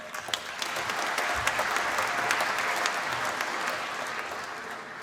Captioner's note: applause